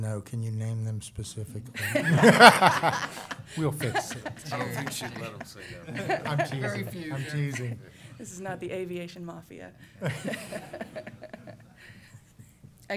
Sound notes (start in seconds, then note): 1.8 laughter; 10.0 laughter